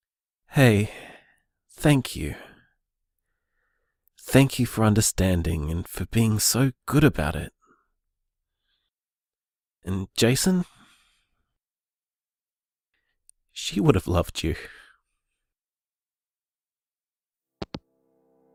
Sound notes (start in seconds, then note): 17.6 hangup